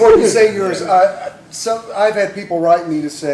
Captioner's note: laughter